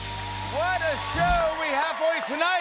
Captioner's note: cheering and applause